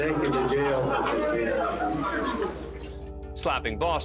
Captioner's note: indistinct chatter